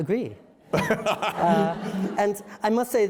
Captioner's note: laughter